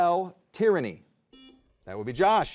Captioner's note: buzzer beeps